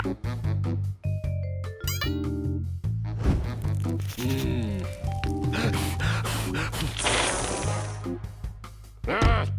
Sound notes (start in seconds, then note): 5.4 blowing; 7.1 ice hissing